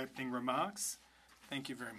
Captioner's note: speaking French